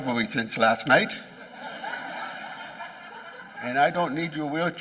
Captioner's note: laughing